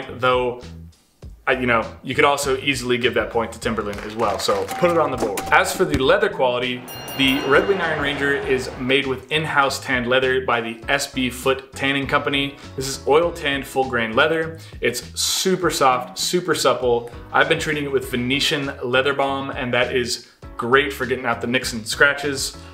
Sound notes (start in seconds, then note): 3.8 audience clapping; 4.7 counter chiming; 4.7 bell dings